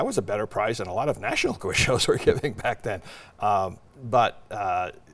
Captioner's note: laughs